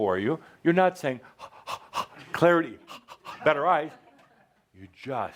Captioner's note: breathing fast